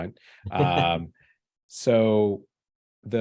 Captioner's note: chuckles